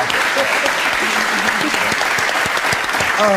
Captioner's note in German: Applaus